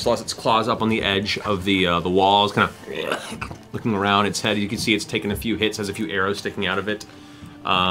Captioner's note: snarls